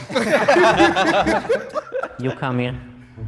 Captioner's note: group laughs